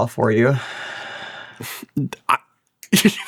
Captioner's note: sighs